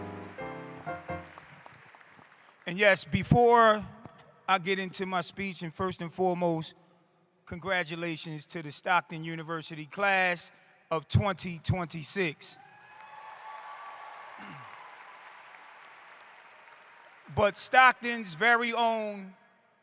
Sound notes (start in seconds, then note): 0.0 piano & applause; 12.5 applause